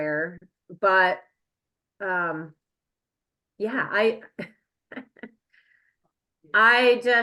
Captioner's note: chuckles